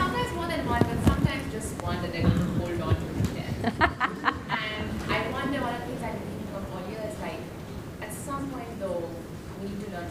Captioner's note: laughter